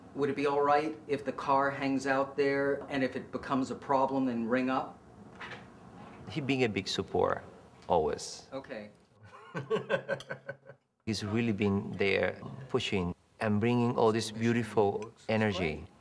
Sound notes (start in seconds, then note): 9.2 laughs